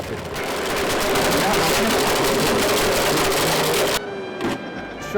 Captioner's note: blender crunching